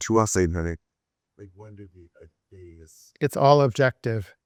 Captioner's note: student speaking faintly